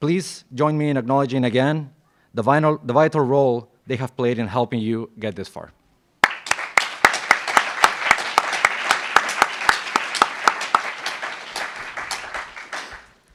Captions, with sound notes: Please join me in acknowledging again the vital role they have played in helping you get this far. (applauds)